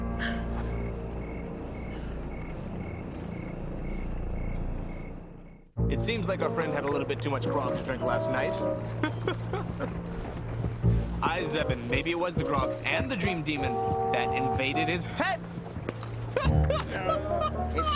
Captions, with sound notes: (light orchestral music) (footsteps) - It seems our friend had too much grog last night. (laughing) Aye, Zzeben, maybe it was the grog and the dream demon that invaded his head. (laughing)